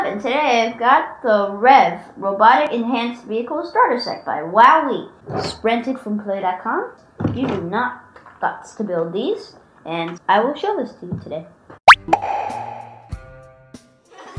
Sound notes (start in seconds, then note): 11.8 squeaky pop; 11.9 intro music